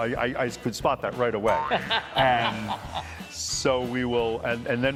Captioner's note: laughter